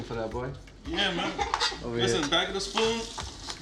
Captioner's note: laughing